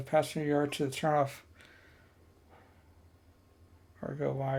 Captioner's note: silence